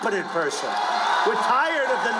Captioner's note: crowd cheering